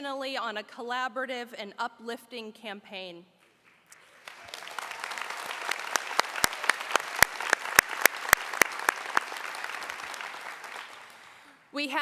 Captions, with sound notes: of the way that we have worked intentionally on a collaborative and uplifting campaign. [Applause]